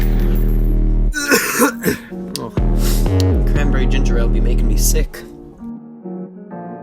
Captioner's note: coughing